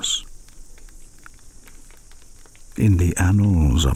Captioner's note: fire crackling and night insects buzzing